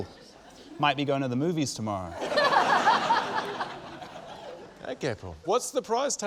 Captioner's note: laughter